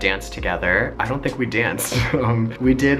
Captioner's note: laughs